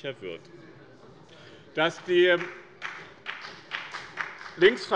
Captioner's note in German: Beifall bei dem BÜNDNIS 90/DIE GÜRNEN